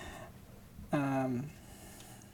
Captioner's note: none